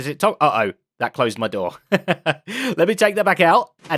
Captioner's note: laughs